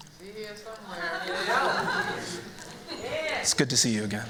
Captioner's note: laughter